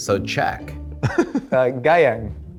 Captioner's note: laughs